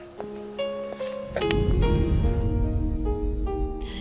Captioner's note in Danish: whoosh